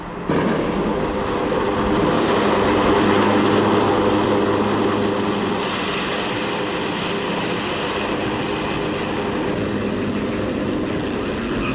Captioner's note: soundbite of drone strike ambience